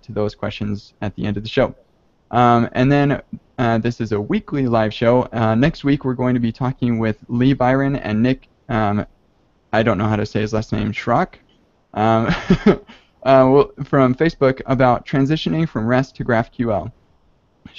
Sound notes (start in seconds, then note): 12.0 chuckles